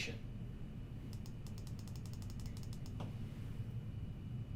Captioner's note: mouse clicking